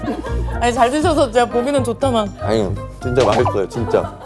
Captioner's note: laughs